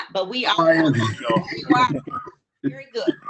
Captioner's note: murmurs